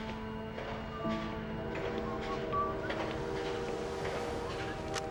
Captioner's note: train whistle blowing